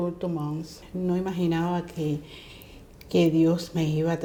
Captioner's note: speaking in Spanish